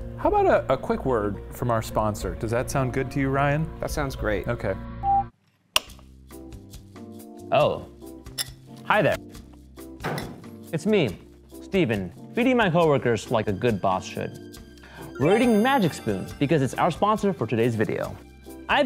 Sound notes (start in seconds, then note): 5.4 screen beeps; 6.4 soft music